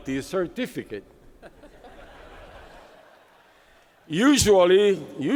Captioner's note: laughter